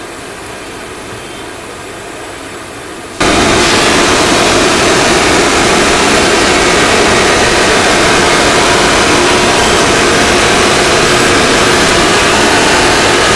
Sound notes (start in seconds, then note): 4.5 engine revving